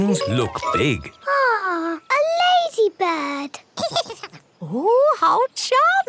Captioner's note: giggles